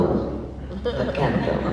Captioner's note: laughs